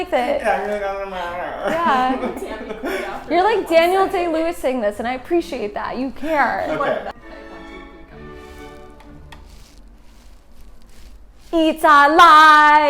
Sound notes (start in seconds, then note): 2.2 background chatter